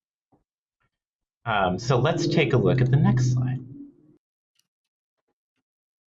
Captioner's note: low traffic noise